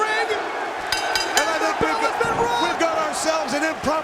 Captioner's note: bell ringing